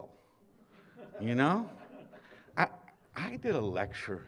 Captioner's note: laughter